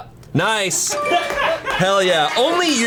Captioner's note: colleagues laughing